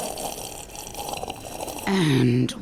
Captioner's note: slurping